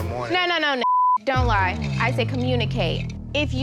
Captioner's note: beep